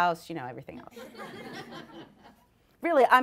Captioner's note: audience laughs